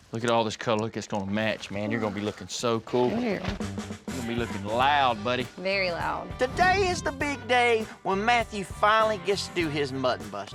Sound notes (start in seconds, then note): none